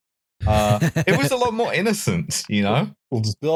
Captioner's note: laughs